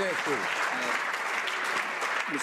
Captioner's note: some Applause